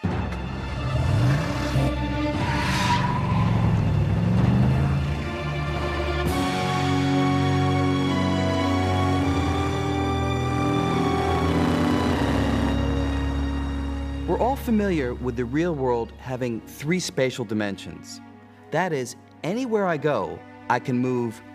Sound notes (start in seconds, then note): 0.2 car starting; 2.4 tires squealing